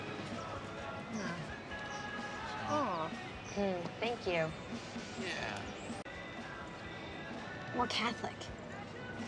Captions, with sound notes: Well... (EXCLAIMS) Thank you. Yeah. We're Catholic.